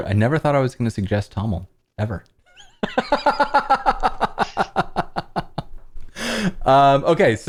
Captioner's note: laughter